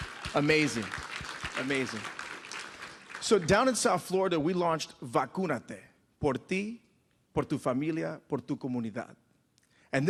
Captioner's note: applause; foreign language